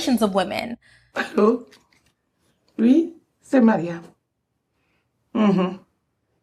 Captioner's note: Amy's mother speaks French